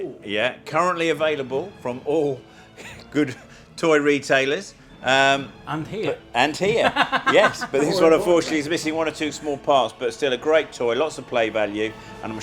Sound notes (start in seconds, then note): 6.7 laughing